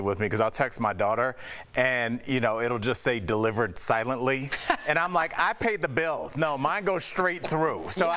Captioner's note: laughter